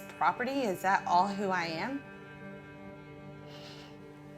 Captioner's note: exhales